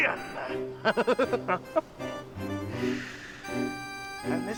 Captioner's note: chuckles